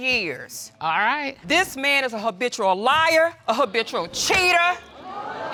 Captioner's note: audience exclaim